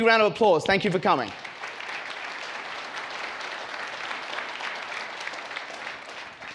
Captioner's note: audience applauds